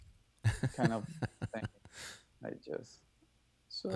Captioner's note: laughing